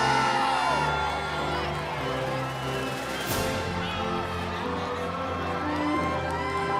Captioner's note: cheering continues; inspirational music